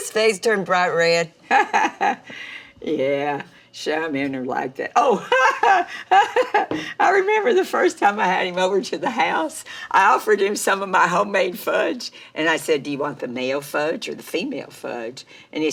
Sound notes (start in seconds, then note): 1.5 mama laughs; 5.2 laughs